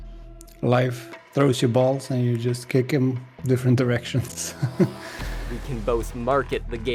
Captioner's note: laughs